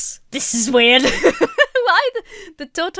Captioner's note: laughs